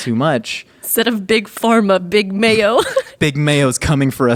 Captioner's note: laughing